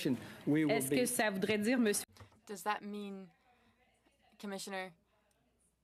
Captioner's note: speaking French